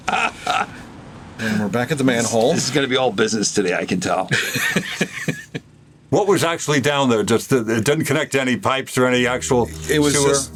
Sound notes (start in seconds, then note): 0.0 laughs; 4.2 laughs